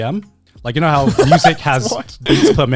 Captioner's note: laughs